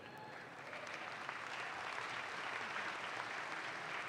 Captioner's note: audience claps